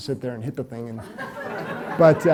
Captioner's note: audience laughs